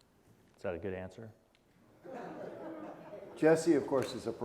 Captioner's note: audience chuckling